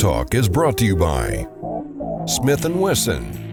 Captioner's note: voiceover